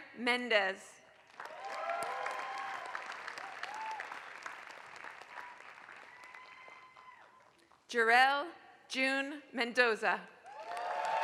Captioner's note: applause; applause